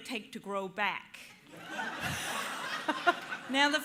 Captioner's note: laughter